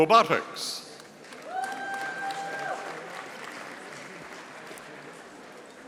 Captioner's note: audience applauding